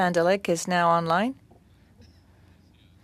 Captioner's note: speaking French